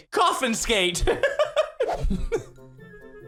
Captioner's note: giggles